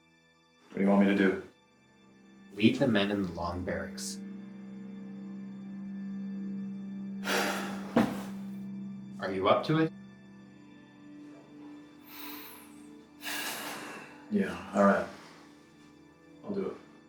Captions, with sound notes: - What do you want me to do? - Lead the men in the long barracks. (Nathan sighs) - Are you up to it? - (sighs) Yeah. All right. I'll do it.